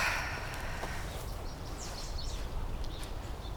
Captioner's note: sighs